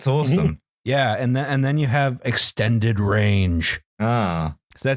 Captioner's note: announcer voice